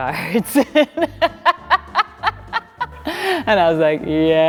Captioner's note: Sutton laughing